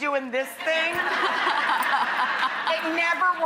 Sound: audience laughs

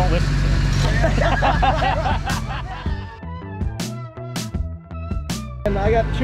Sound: laughter

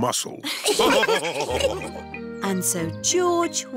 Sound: laughs; all laughing

